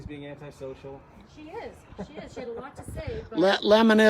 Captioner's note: man laughs